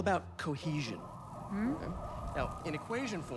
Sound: police sirens

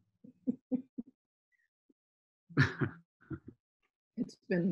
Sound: both laughing

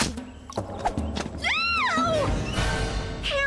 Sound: Courtney Shrieking

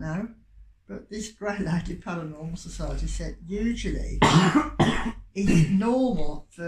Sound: cough

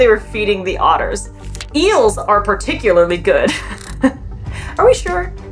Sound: laughs; background music

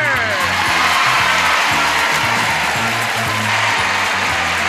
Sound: applause

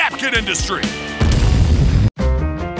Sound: explosion

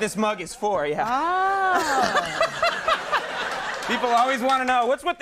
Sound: Conan and audience laughing

